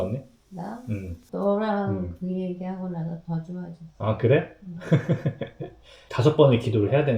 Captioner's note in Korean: 웃음